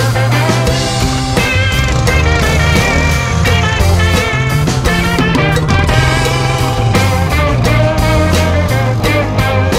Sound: engine Rumbles and Revs

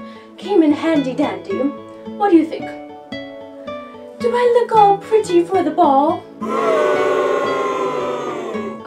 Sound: crowd Boos

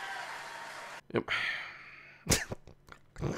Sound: audience claps; sigh

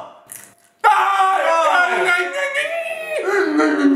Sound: shouting; crunching; shouting

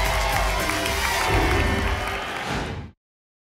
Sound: whoosh

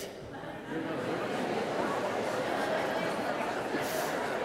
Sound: congregation muttering

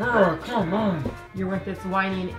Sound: grunts

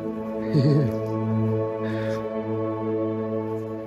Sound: chuckles

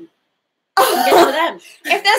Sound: laughing

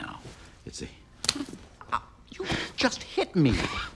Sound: slaps

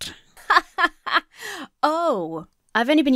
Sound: laughs disingenuously

